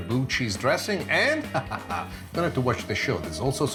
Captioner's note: laughs